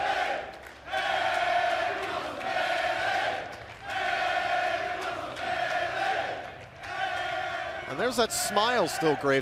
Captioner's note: fans chanting